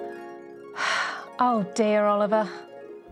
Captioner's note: shimmery music; Moira sighing